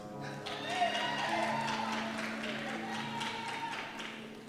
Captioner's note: cheers and Applause